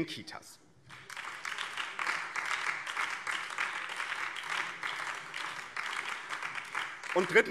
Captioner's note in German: Beifall BÜNDNIS 90/DIE GRÜNEN